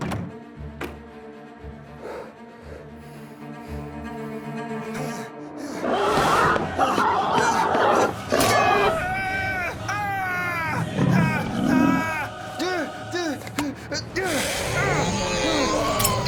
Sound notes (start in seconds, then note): 0.2 eerie orchestral music; 9.1 screams